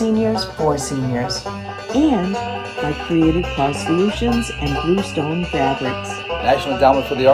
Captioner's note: frogs ribbit; insects chirp